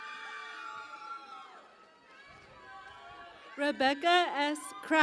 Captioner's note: cheering and Applause